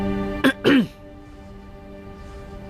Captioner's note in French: Tousse